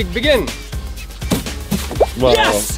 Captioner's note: laughing; hollow thud